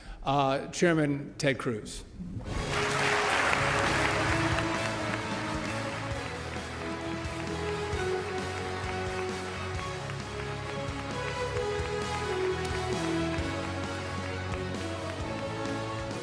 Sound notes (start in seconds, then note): 4.6 applause